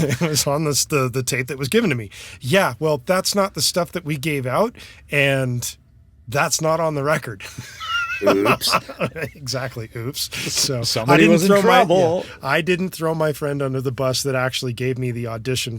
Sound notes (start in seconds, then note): 7.5 laughs; 12.7 chuckles